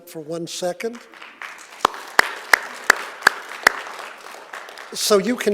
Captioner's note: audience applauding